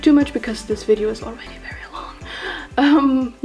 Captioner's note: whispers